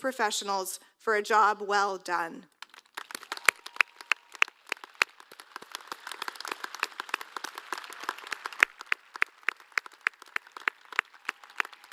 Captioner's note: applause